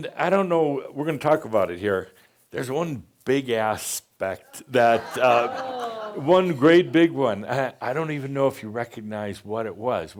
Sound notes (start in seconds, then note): 4.9 audience says “Ohh!”